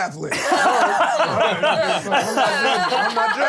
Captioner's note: laughing